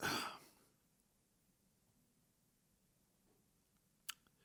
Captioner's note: exhales heavily